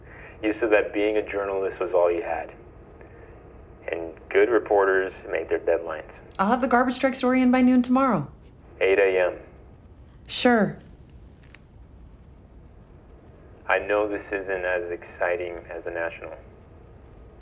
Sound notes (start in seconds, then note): none